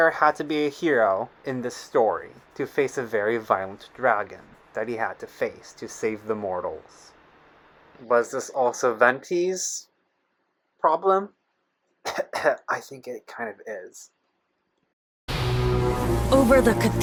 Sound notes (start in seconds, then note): 12.0 sarcastic cough